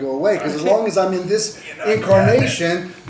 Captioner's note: bangs on the table